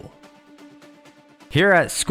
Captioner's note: awkward silence